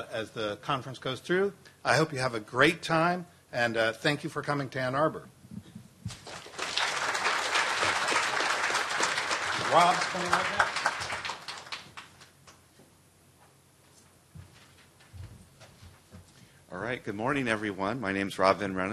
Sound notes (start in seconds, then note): 8.1 applause